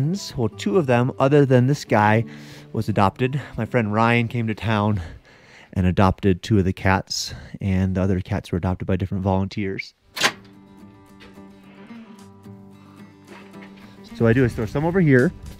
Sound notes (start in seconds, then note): 10.1 metal door clicking; 10.4 relaxing guitar music